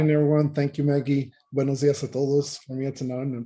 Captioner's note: speaking in Spanish